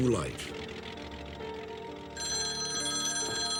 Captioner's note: phone ringing